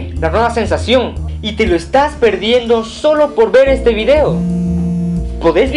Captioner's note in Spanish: celular vibrando